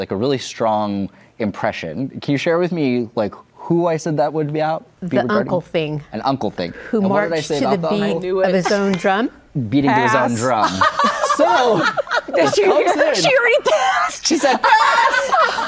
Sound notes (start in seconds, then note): 10.1 guests laugh